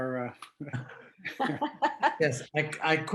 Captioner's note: chuckle